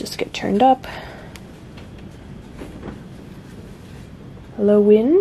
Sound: sudden gust of wind out of nowhere

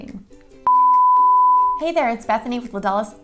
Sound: high-pitched toning

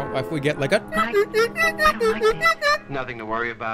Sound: hums horn music

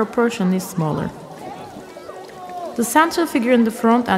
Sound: children playing, people conversing in background

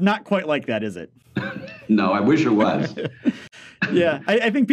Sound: laughs

